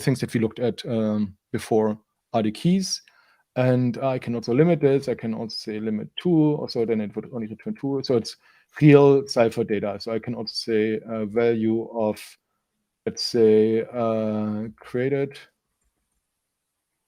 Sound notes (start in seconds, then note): none